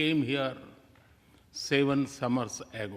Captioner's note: none